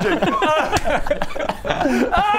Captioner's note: schoolboy giggles